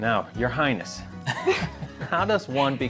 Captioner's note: laughs